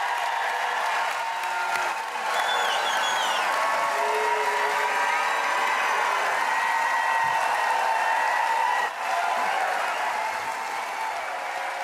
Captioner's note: applause